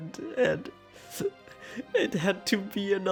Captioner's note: sobs